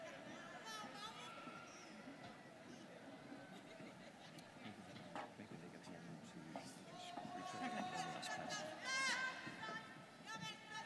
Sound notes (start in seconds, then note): 5.1 students cheering